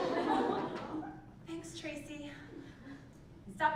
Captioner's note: laugh